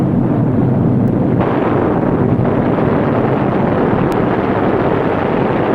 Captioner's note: gunfire sounding